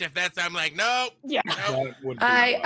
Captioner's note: laughs